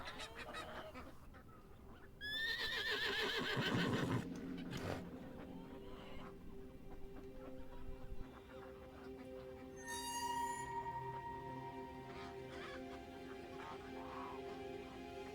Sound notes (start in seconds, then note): 2.2 horse neighing; 5.9 soft tense orchestral music